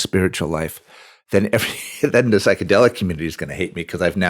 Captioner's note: laughs